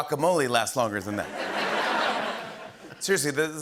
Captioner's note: laughter